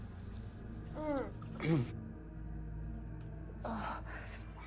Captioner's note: Sara groans